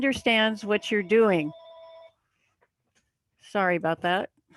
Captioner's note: phone ringing